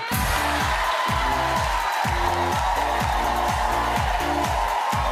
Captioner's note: audience cheering; upbeat music